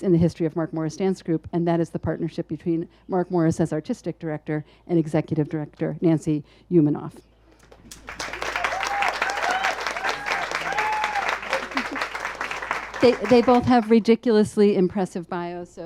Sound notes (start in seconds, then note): 7.7 audience applauds and cheers